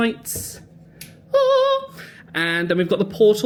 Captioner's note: humming